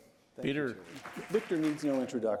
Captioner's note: applause